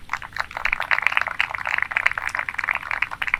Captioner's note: applause